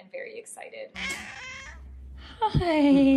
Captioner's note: meows